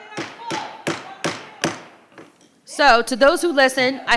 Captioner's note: gavel bangs; participant shouting